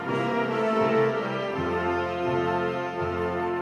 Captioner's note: none